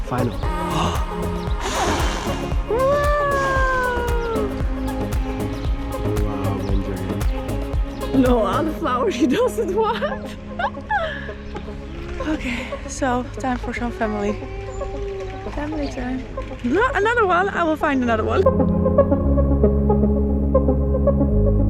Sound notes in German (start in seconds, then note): 0.1 murmelt; 11.3 lacht; 13.2 murmelt; 18.7 beruhigende Musik